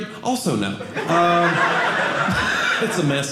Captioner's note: audience laughing